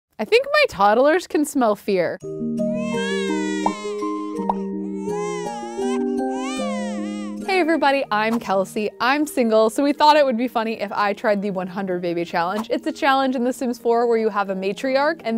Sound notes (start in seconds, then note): 2.7 baby cries; 3.1 soft music